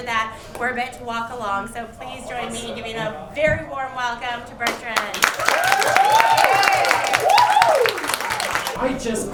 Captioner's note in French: Applaudissements